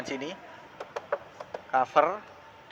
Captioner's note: knock tock tock SFX